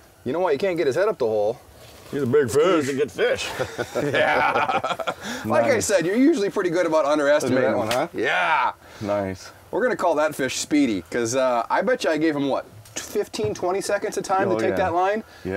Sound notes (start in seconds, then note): 3.2 lauging